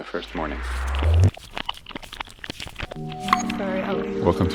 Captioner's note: whooshing sounds